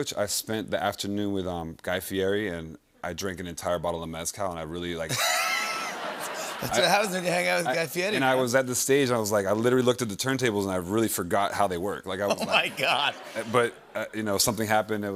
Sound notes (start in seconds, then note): 5.0 laughter